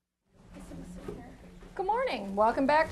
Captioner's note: student speaking faintly